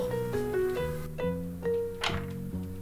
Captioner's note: office door opens